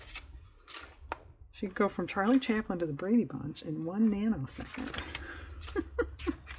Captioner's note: laughs